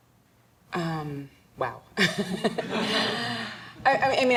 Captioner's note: audience laughing